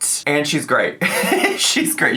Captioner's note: laughs